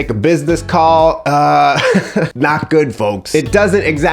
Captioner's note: laughs